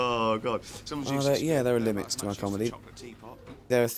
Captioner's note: David voiceover